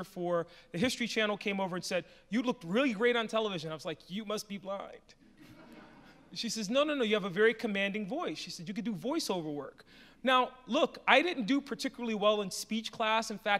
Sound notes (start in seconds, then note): 5.3 audience laughs